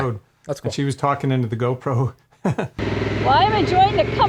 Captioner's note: chuckles